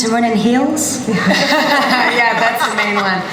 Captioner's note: laughter